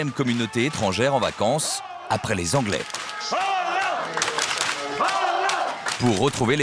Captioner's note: applause